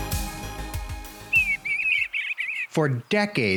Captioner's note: birds chirping